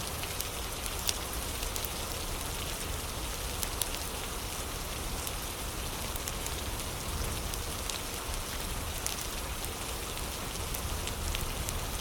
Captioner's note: fire crackling; fire crackling